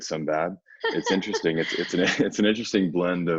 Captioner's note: laughing